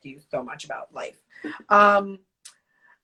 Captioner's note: laughs